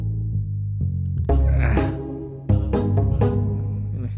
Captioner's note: grunting noise